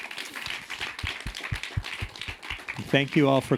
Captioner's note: audience applauding